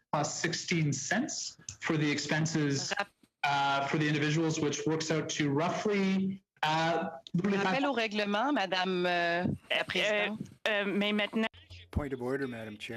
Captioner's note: speaking French